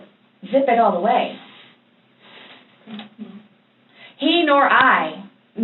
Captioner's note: small sounds of disagreement